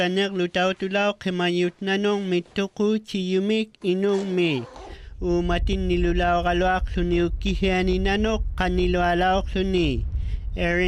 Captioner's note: speaking inuktitut